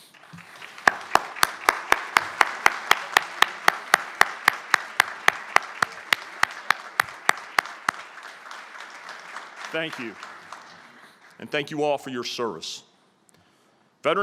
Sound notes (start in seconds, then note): 0.0 applause